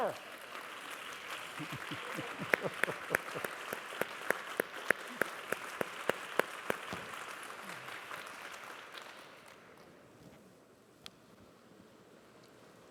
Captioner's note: applause